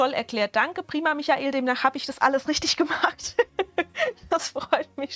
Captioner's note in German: Gelächter